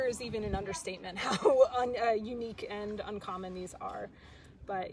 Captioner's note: laughs